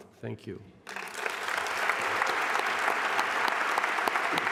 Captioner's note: applause